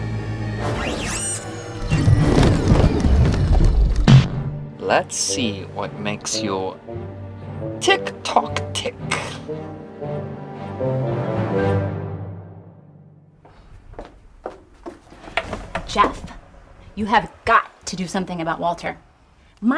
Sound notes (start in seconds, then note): 2.3 electric sound fading